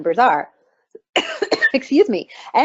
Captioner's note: coughing